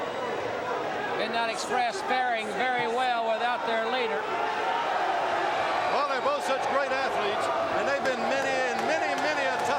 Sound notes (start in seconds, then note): 5.1 crowd cheering